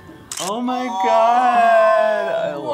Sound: camera shuttering

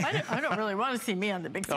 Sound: laughter

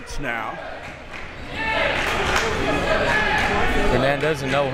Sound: crowd members chanting

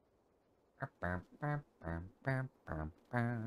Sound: humming

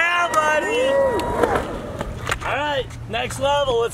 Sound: crowd cheers

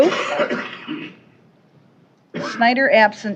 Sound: coughing

